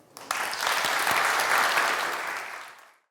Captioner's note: applause